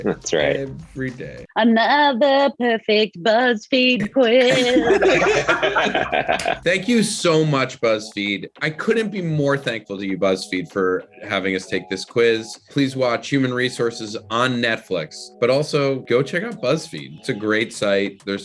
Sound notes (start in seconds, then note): 0.2 Randal laughs; 4.1 group laughs